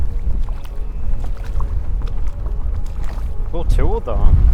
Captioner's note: water splashing